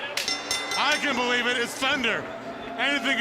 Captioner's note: bell ringing